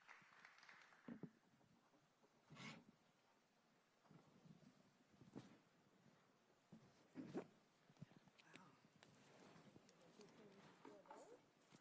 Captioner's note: applause